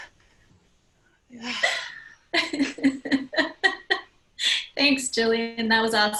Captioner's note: laugh